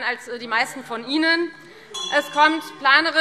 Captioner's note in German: Unruhe BÜNDNIS 90/DIE GRÜNEN - Glockenzeichen